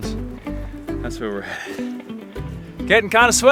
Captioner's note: breathes heavily